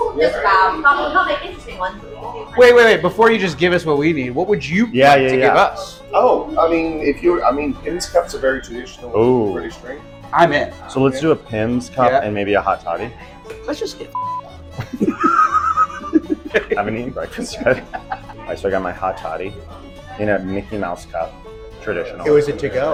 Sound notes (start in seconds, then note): 14.1 beep; 14.7 both laughing